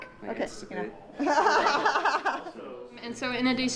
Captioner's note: laughter